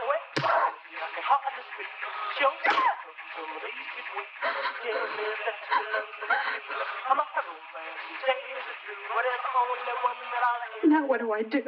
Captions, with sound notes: (Louise screaming and slapping) (Louise breathing heavily) Now what do I do?